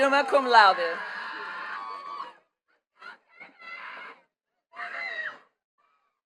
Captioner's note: attendees cheering and clapping